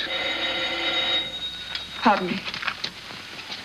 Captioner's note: telephone rings